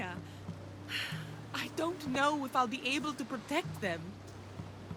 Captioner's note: sigh